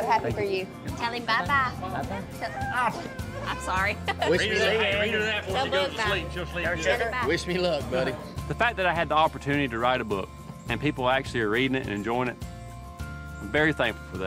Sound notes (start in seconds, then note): 2.0 laughs; 2.7 whines